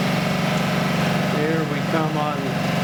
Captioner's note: engine running